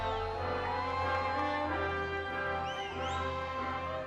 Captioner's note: audience applauding and cheering